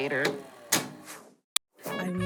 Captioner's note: graphic screeching